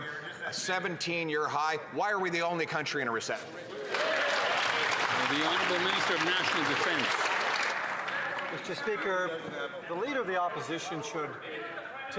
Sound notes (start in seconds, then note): 8.6 some Applause